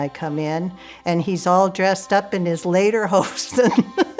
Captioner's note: laughs